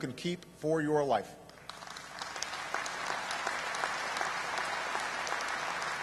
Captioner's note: applause